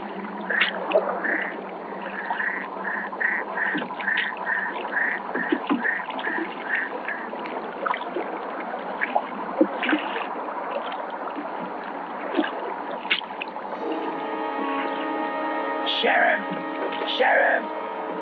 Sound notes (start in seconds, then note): 12.2 water splashing; 13.5 ominous music